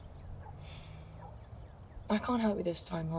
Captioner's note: sighs